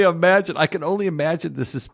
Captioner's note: laugh